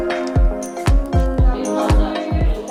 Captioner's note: chatter